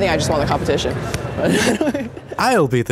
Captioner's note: laughs